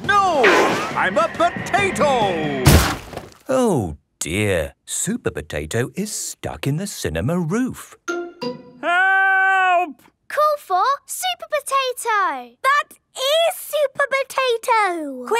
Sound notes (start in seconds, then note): 2.5 crashes